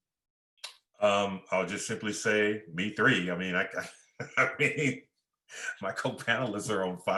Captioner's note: chuckling